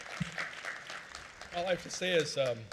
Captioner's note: applause